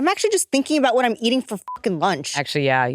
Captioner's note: beep